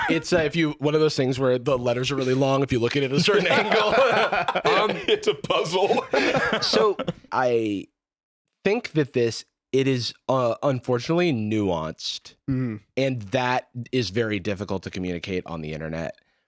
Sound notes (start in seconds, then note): 3.2 laughing